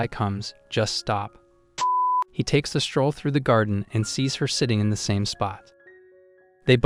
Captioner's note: beep